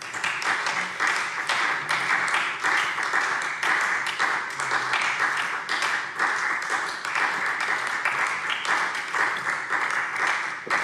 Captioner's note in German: Beifall SPD